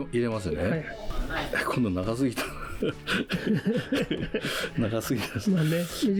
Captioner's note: laughs